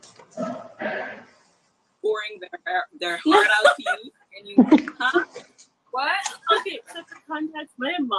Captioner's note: counting money